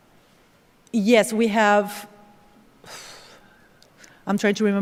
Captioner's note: exhales